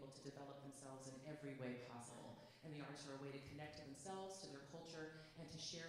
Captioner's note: none